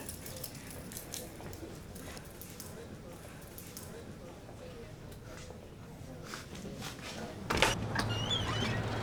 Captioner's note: watch shakes and door opens